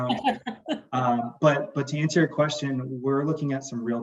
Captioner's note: laughs